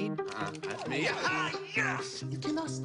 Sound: excited yelling

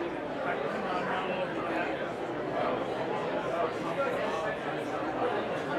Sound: audience talking

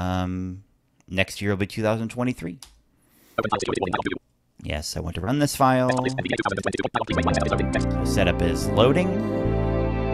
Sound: computer sound implying loading

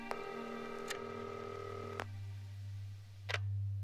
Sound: line continues ringing; clock ticks; line clicks

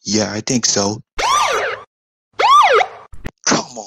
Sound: siren Blaring

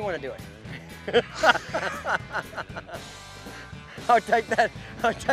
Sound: laughing

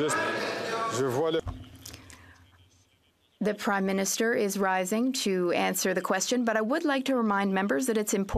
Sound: some Applause

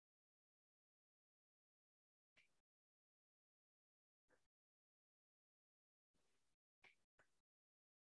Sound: silence

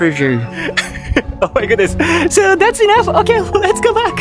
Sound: chuckles

